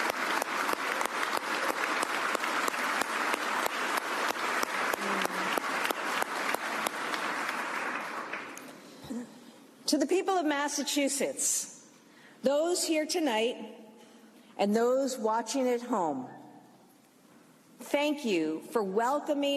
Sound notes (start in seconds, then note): 5.9 applause